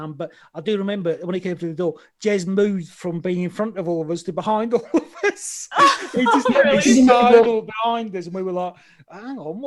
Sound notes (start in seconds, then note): 4.8 laughs